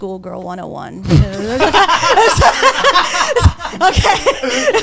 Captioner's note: all laughing